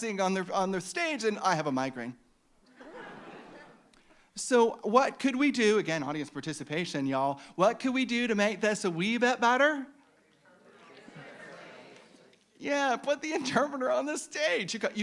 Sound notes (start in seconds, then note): 2.7 audience laughing; 10.6 audience shouting